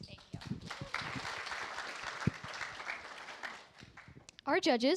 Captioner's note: applause